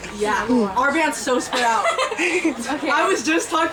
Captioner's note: laughter